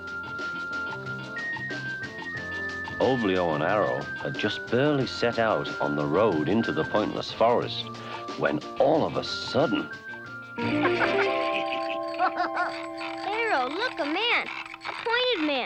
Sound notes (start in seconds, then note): 0.2 light orchestral music; 10.8 light chiming music; 12.3 laughing